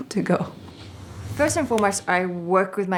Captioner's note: whooshing